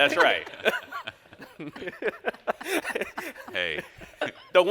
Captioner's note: all laugh